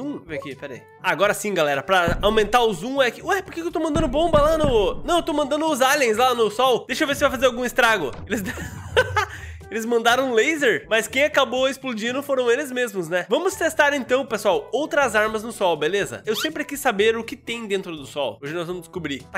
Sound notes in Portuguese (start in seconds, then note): 8.3 risos